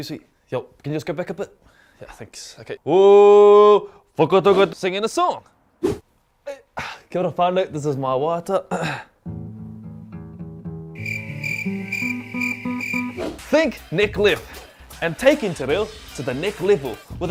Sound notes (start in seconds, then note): 8.7 clears throat; 9.2 strums guitar; 10.9 crickets sound